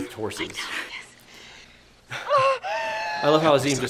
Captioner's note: Fanny cries out